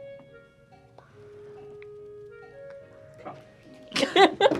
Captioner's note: whispers; both laugh